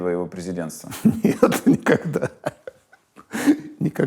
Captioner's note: laughing